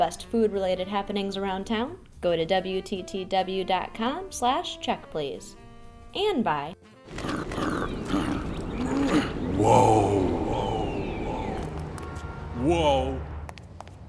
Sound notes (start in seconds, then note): 7.1 grunting